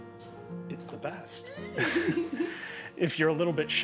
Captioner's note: giggling